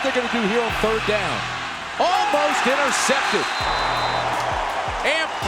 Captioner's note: crowd reacting